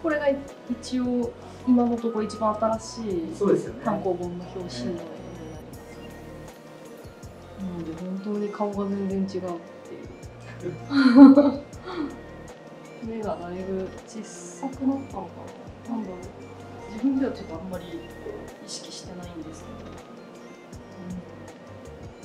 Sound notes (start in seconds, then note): 10.5 laughs